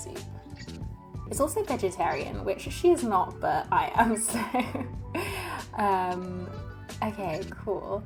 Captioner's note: laughs